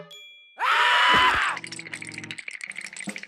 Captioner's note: chattering